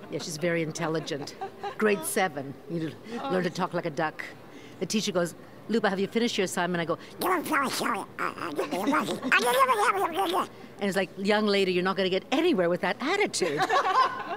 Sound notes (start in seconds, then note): 7.2 duck impersonation